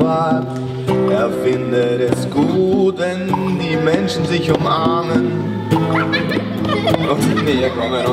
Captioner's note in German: Kinder lachen